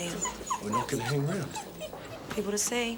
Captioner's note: wolf whining